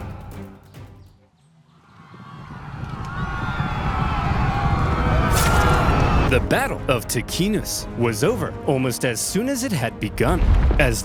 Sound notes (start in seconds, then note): 1.8 roman soldiers screaming